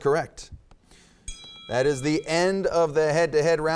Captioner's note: bell dinging